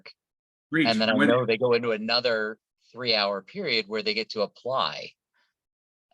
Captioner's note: phone